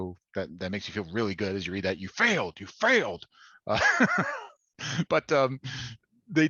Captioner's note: laughter